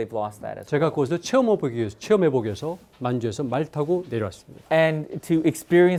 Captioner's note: speaking in Korean